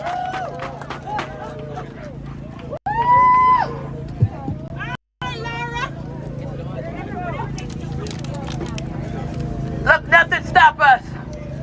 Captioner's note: cheering and applause